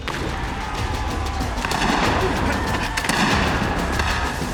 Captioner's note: gunfire